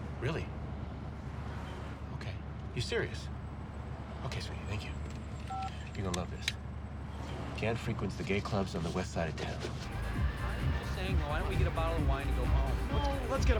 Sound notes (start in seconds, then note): 5.3 phone beeps; 9.8 dance music playing